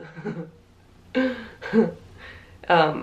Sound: laughs

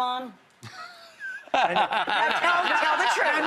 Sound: laughs

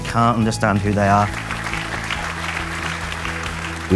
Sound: applause

